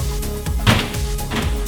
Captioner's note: thuds